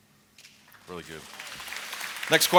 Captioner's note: applause